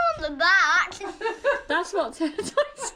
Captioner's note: laughter